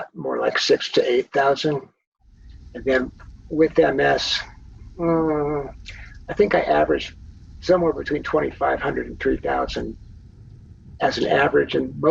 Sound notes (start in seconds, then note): none